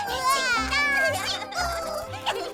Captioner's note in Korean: 웃음소리